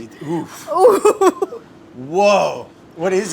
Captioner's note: laughs